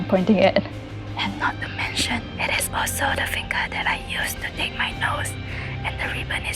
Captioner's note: whispers